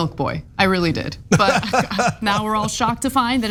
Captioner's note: laugh